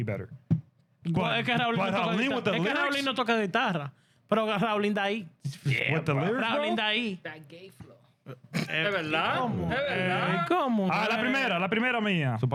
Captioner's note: laughter